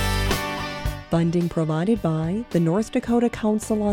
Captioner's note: voiceover